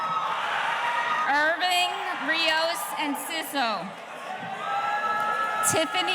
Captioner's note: audience cheering